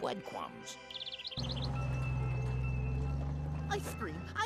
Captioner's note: bell ringing